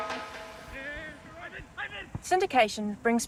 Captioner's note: rugby players exclaim